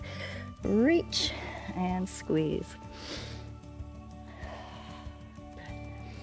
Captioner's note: inhales and exhales